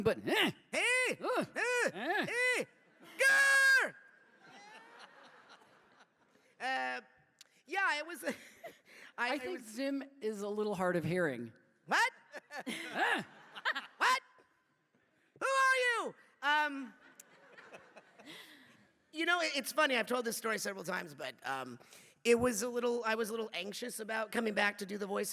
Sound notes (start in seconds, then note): 0.3 Zim yelling; 4.5 laughing